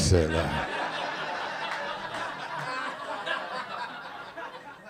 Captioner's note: audience laughing